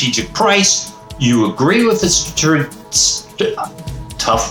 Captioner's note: stuttering